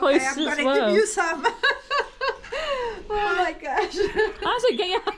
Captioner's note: laughing